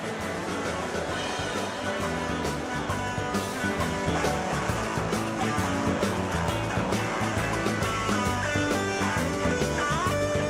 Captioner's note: cheers and applause